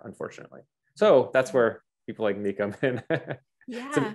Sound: laughs

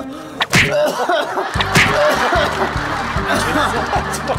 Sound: slap

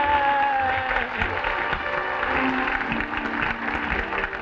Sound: audience clapping

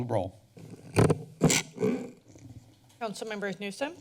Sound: mic sounds

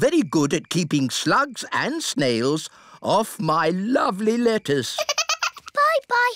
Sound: giggles

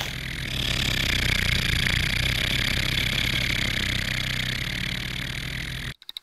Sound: road roller motor

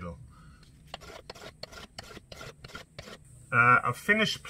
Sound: plane scraping

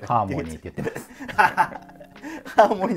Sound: laughing

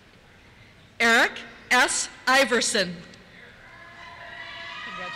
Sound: cheers

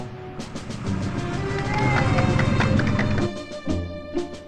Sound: loudly clapping; whimsical orchestral music

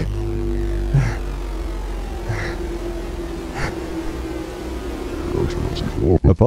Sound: panting

